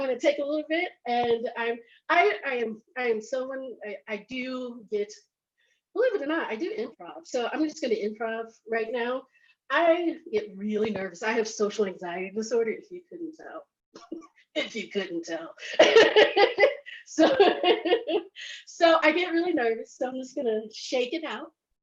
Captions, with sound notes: I want to take a little bit and I am someone, I do, believe it or not, I do improv. So I'm just going to improv right now. I get really nervous. I have social anxiety disorder, if you couldn't tell, you couldn't tell (laughs). So I get really nervous so I'm just gonna shake it out.